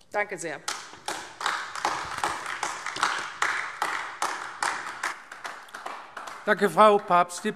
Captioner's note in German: Beifall AfD